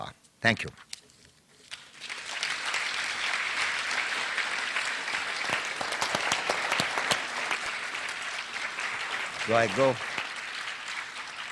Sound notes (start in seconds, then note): 1.1 applause